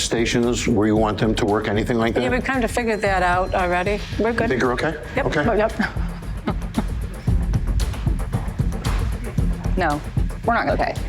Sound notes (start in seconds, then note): 8.3 chuckles